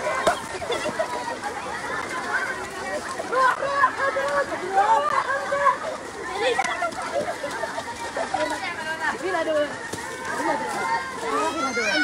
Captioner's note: laughter